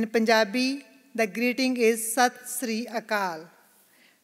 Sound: non-English greeting

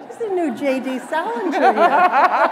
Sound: laughter

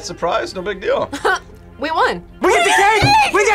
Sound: laughs

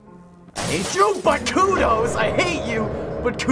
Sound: clattering noises

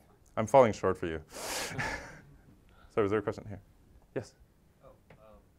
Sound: laugh

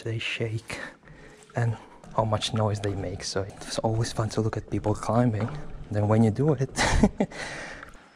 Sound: chuckles

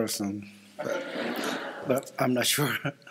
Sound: laughter

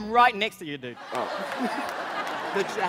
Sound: laughter

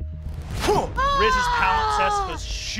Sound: moans

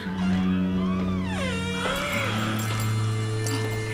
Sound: ominous music; door creaking; spurs jingling

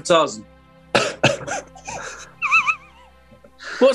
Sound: sniggering

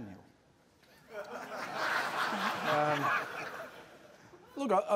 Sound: laughter

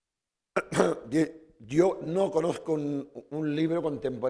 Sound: speaking spanish

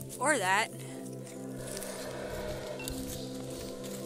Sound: howler monkey howling

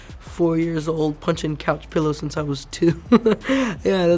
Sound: laughs

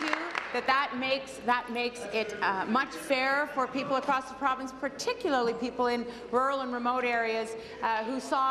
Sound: applause

